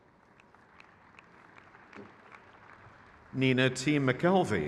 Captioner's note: crowd cheers